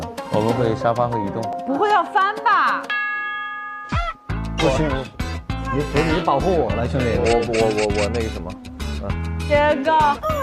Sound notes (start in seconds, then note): 7.2 stuttering